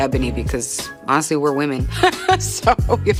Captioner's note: laughs